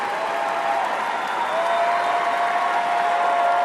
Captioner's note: cheering and applause